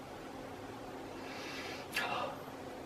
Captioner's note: sigh